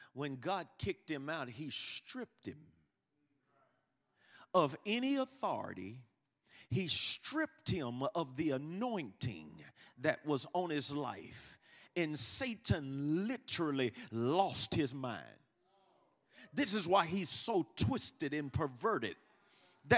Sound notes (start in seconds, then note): none